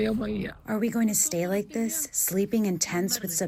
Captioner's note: through translator